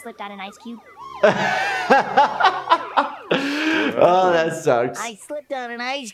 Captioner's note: laughs